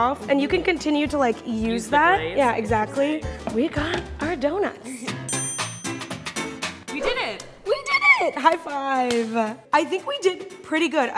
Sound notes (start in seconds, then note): 4.9 bouncy folk music; 8.4 hands clap